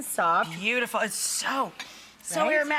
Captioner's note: sniffs